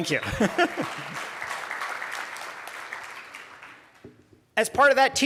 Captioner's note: applause; laughs